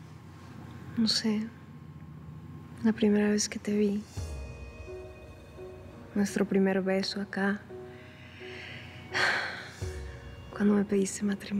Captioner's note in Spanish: suspiros